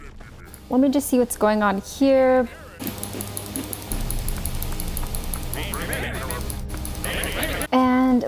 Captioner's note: intense clicking